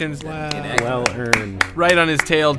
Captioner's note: clapping